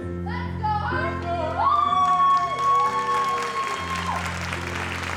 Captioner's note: audience applauds